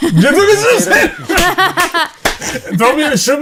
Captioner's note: all chuckle